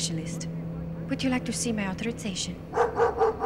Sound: dog barking

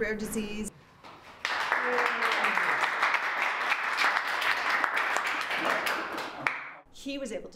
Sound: applause

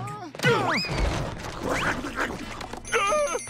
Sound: munching

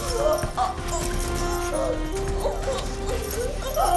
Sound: shrieks

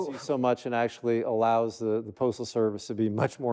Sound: chuckle

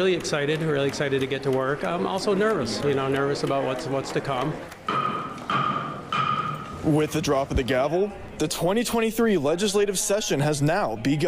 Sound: applause

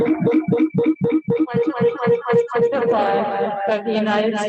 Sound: mic echoes

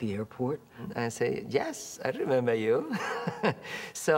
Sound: laughs

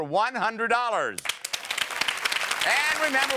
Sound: audience applauds

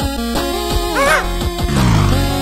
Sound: Mario gasps

